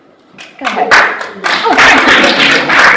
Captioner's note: audience applauds